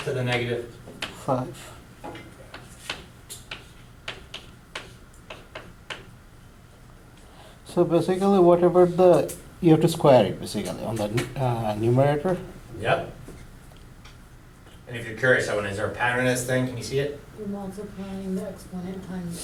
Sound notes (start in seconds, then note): 2.1 voiceover; 2.4 chalk clicking on board; 18.3 voiceover